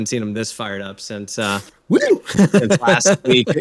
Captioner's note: laughs